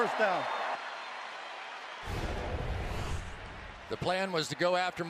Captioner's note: cheering